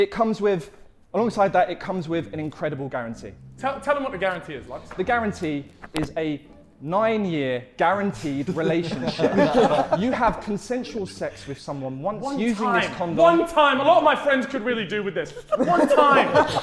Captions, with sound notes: it comes with, alongside that, it comes with an incredible guarantee. - Tell them what the guarantee is, Lux. - The guarantee is a nine-year guaranteed relationship. (Sidemen laughing) You have consensual sex with someone once-- - One time! One time! - Using this condom! - All of my friends could really do with this. (Sidemen laughing)